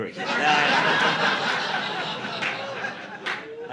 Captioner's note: audience laughing